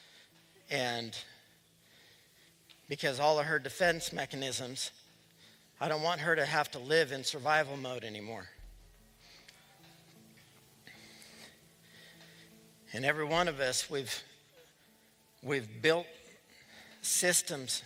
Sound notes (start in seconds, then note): none